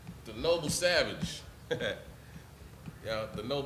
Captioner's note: laughs